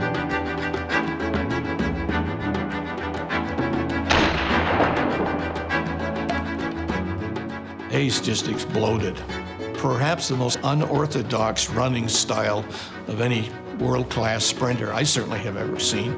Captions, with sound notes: [STARTER'S PISTOL FIRES] [POUND]: HAYES JUST EXPLODED. PERHAPS THE MOST UNORTHODOX RUNNING STYLE OF ANY WORLD-CLASS SPRINTER I CERTAINLY HAVE EVER SEEN.